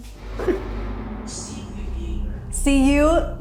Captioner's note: automated Voice